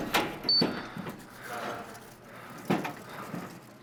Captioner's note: machine beeps